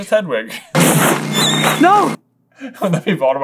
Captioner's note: worst owl scream of pain ever